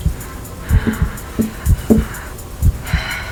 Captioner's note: tapping